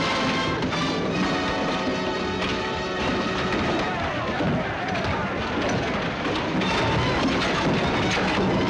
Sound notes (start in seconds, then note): 2.1 men fighting and shouting